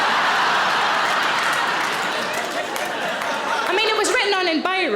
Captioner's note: audience laughs